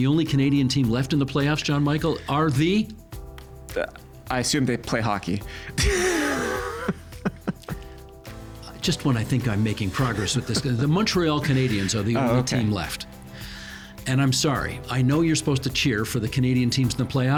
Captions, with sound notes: And the only Canadian team left in the playoffs, John Michael, are the...? I assume they play hockey. (Chuckling) Just when I think I'm making progress with this. The Montreal Canadiens are the only team left. Oh, okay. And I'm sorry, I know you're supposed to cheer for the Canadian teams in the playoffs.